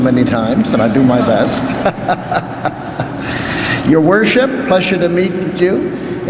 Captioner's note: laughs